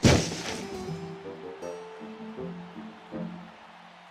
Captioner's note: falling noise; distant cheers and applause